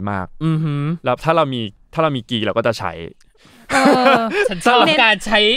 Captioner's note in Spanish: Risas